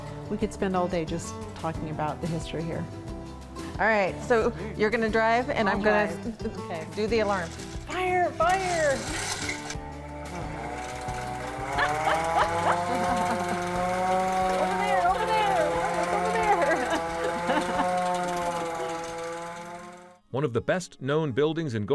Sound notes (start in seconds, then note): 11.4 laughing; 11.5 alarm whirring